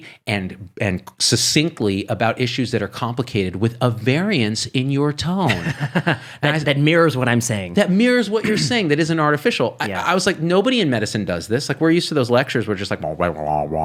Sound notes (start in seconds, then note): 5.5 laughs